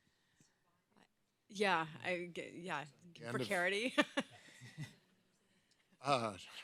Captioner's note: laughs